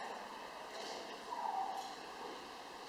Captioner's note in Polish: śpiew ptaków